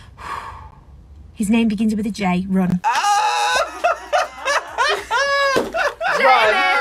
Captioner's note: sighs; laughs